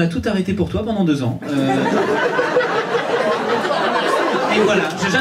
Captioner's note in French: rires public